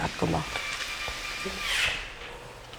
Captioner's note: drilling noises